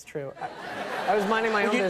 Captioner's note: audience laughs